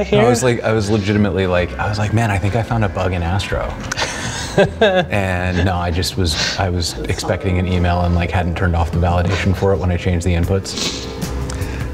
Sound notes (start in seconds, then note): 3.8 laughing